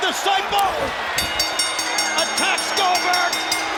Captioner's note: bell dinging